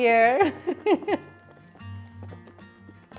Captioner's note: laughs